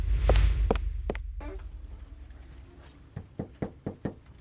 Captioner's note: light tapping